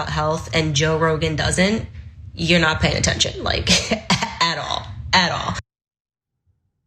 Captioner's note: laugh